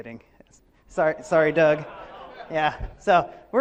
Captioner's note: laughs